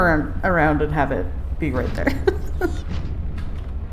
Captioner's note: laughs